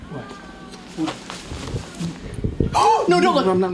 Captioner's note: gasping